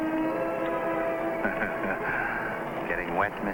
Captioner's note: Jack chuckles